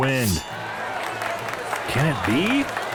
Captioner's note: crowd Cheering